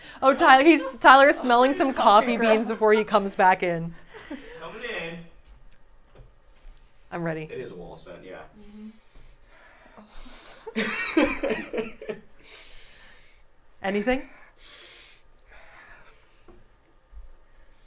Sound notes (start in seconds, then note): 0.0 shouts; 8.3 mumbles and sniffs; 11.2 laughs